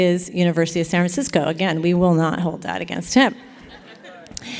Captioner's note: laughter